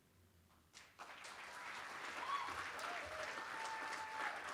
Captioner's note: applause